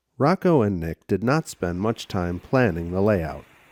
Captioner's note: voiceover